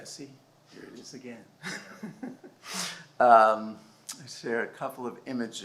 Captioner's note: laughs